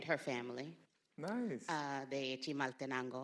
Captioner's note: speaks in Spanish